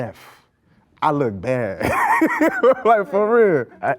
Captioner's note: laughing